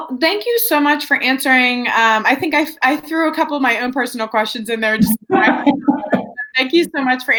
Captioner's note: laughs